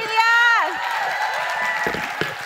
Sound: crowd cheers

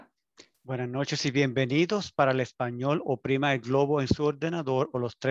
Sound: foreign language

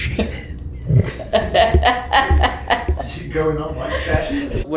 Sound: whispering; laughing

